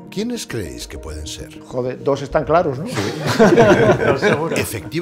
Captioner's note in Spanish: Risas